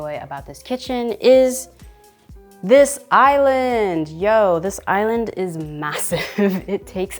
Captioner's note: chuckling